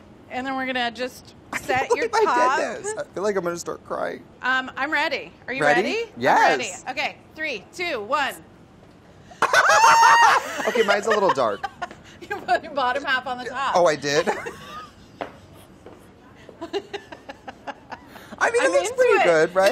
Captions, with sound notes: And then we're gonna just-- - I can't believe I did this. - Set your top. - I feel like I'm gonna start crying. - I'm ready, are you ready? - Ready, yes! - I'm ready. Okay, three, two, one. [both scream] - Okay, mine's a little dark. - You put your bottom half on the top. - Oh I did? [both laugh] - I mean-- - I mean, it looks